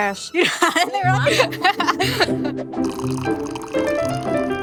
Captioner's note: laughs